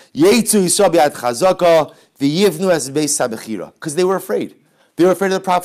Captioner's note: Hebrew